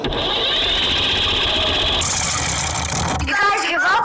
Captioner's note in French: la pompe grince; moteur vrombissant